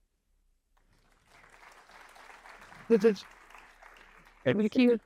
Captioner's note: audience applauding